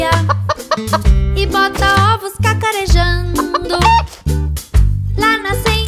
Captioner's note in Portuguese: som de galinhazinha; som de galinhazinha